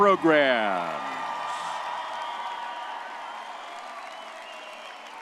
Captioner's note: crowd cheering